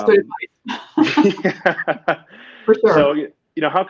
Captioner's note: laughing